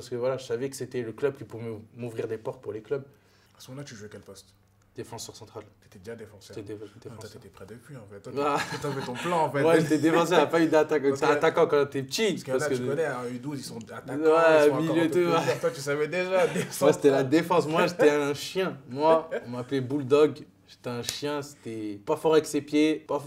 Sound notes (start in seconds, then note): 8.4 laugh